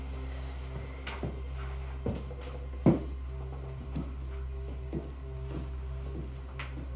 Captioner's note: tense music; footsteps retreating; tense music